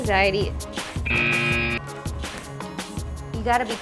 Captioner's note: buzzer beeps